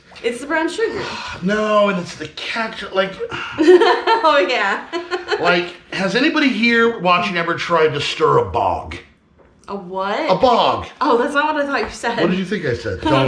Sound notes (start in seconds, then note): 0.0 exclaiming; 3.5 laughing